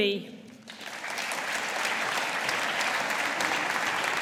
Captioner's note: audience applauding